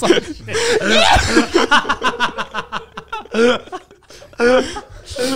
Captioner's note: laughing